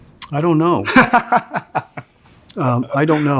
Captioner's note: laughs